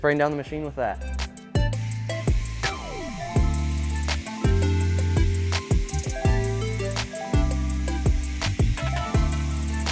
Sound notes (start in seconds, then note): 1.8 water spraying; 2.8 upbeat music